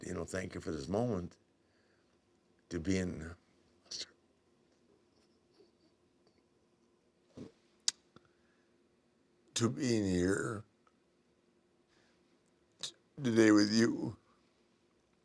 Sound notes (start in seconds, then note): none